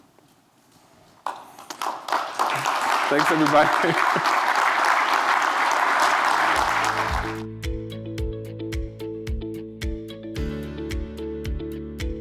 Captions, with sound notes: (audience applauding) - Thanks everybody (laughs). (upbeat music)